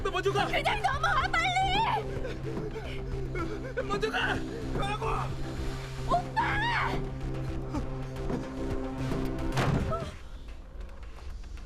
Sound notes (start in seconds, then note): 2.0 Terrified Yongnam's breathing; 9.5 thud